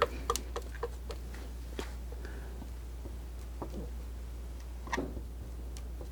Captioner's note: scratching